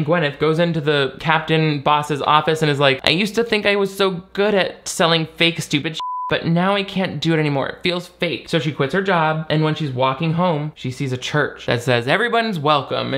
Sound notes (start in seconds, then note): 6.0 beep